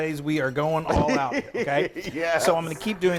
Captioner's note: laughing